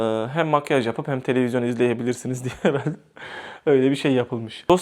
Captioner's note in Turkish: kahkaha